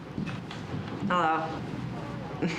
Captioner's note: laughs